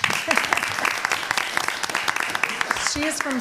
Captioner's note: applause